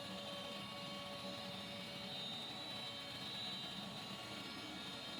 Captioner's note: machine roaring